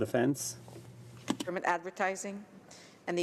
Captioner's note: speaking French